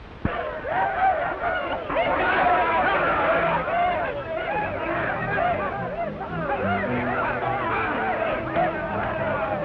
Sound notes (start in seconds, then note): 0.6 Cat Worshipers shout; 4.5 suspenseful orchestral music